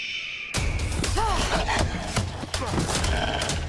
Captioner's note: hawk screaming